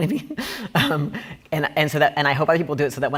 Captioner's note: laughing